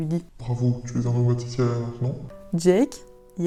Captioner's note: deep voice